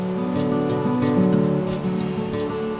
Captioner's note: river rushing